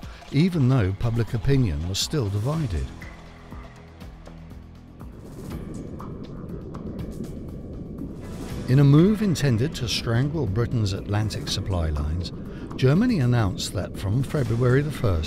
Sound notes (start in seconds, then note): 4.3 suspenseful music; 6.5 wind roars